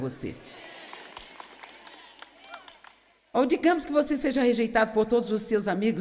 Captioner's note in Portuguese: audiência aplaude